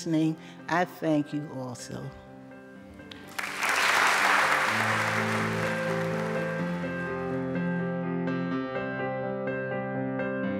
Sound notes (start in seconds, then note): 3.1 clapping; 4.7 upbeat music